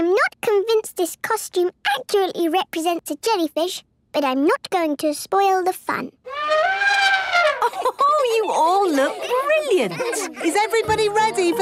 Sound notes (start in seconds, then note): 6.2 trumpeting; 7.5 Mummy Pig laughing